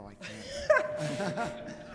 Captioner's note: laughing